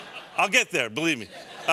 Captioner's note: laughter